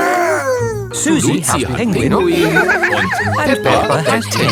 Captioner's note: giggles